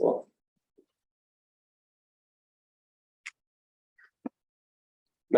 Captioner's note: silence